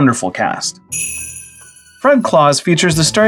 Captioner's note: sleigh bells